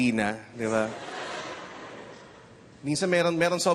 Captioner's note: audience chuckles